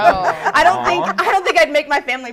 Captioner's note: laughter; laughing